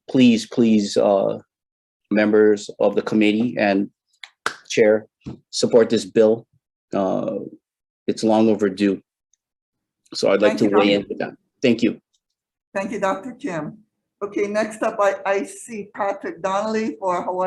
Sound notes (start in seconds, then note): 3.9 claps